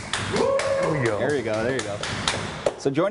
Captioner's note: applause